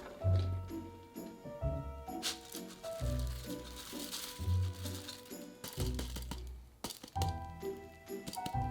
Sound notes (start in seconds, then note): 2.2 lentils dropping